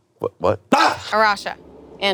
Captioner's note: screams